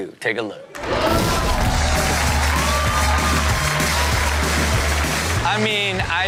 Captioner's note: audience cheers; upbeat music